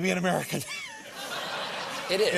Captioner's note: laughter